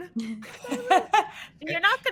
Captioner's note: laughs